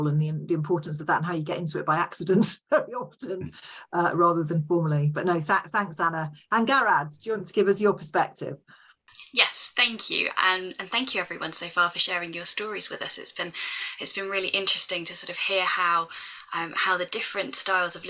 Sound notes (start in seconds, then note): 3.0 laughs